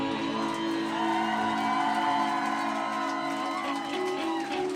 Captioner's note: crowd cheering